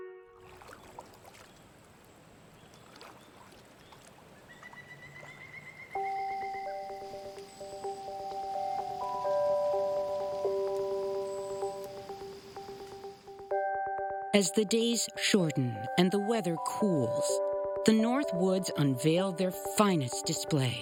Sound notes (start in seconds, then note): 0.2 water trickling; 3.5 birds chirping